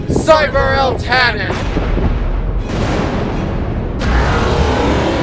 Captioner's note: thunder crackling; eltanin roar